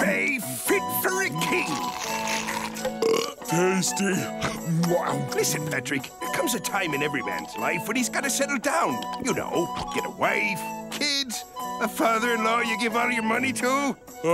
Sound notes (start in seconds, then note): 4.1 burping